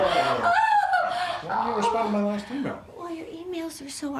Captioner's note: laughter